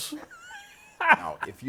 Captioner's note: laughter